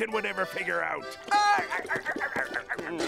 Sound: laughing

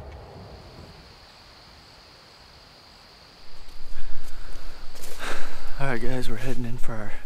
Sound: insects

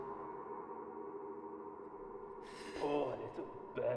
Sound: echoey wind & heavy breathing sound

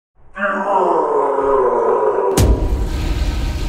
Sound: guttural scream

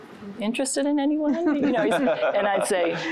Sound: giggling

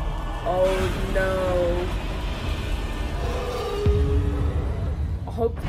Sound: Both Godzilla and Kong roar

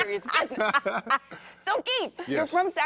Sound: laughing

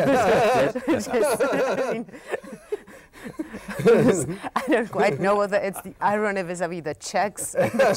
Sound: all laughing

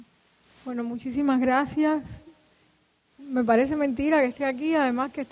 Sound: speaking in Spanish

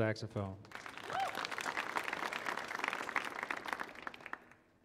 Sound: audience applauding

